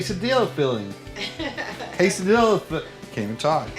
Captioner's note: laughter